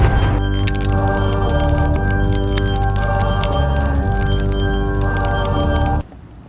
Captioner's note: fire crackle; zippo drops